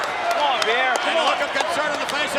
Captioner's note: clapping